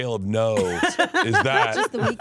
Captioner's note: laughs